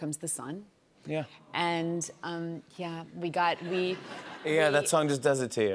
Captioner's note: laughter